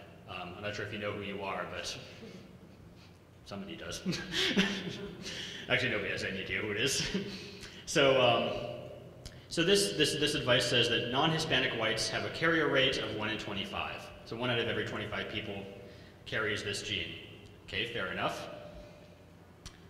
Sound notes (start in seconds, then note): 4.0 laughing